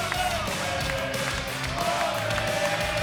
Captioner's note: cheers and applause